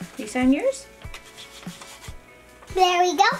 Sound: pen scribbling

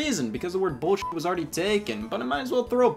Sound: beep

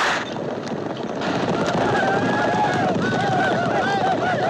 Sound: whooping

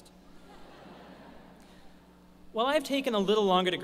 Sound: laughter

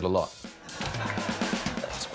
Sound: laughter

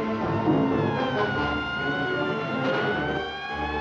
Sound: siren Wailing

